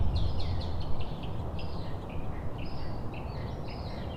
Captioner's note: rain pattering; birds chirping